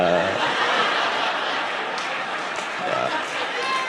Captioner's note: audience laughing